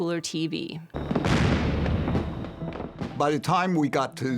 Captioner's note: fireworks exploding